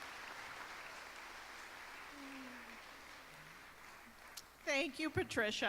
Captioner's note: applause